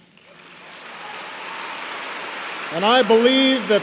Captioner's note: applause